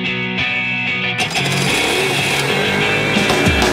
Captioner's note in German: Motor-Geräusche